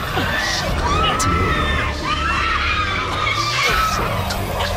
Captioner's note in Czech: lidé křičí